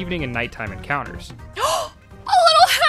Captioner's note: gasp